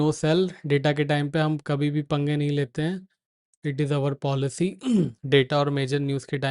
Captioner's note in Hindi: गला साफ़ करने की आवाज़